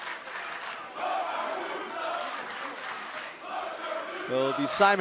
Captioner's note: crowd cheering